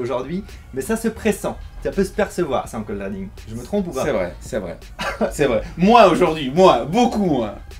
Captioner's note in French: rire